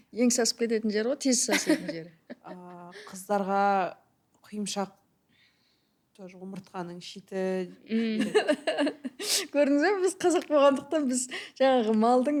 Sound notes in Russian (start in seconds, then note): 8.0 смеётся